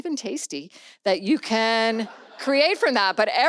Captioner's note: audience laughs